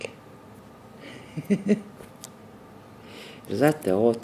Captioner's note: gigling